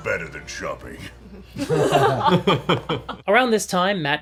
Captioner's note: all laugh